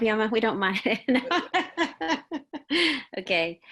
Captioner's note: laughing